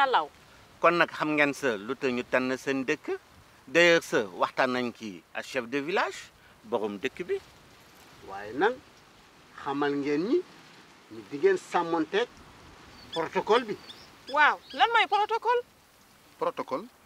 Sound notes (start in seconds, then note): 3.8 repeats sentence in Wolof language